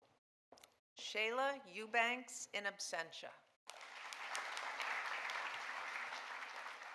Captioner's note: audience applauding